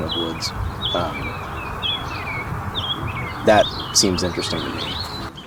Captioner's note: birds chirping cheerfully